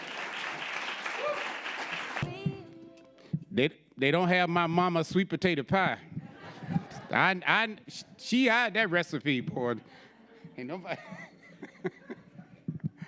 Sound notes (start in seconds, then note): 0.0 audience applauding; 6.1 audience laughing; 10.8 laughs